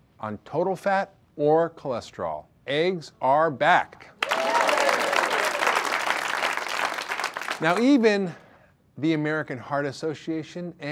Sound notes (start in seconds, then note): 4.2 audience applause